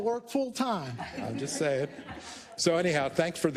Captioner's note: laugh